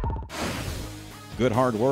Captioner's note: drum beats; air rushing